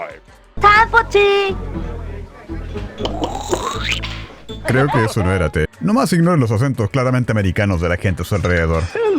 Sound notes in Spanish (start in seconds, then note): 2.9 gluglugluglu; 2.9 risas caballerosas